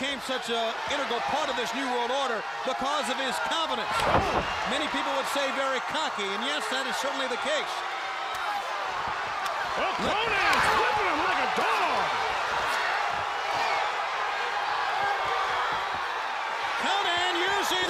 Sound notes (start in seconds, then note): 10.7 crowd cheering; 14.2 crowd cheering